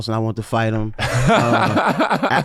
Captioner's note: laughing